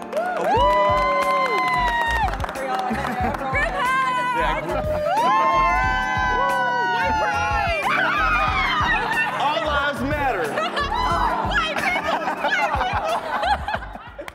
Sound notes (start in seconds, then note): 0.1 participants cheering and appluading; 4.1 participants cheering